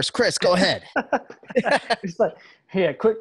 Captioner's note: all laughing